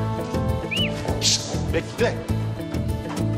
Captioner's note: fire whistled